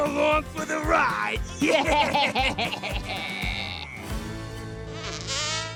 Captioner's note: chuckles deviously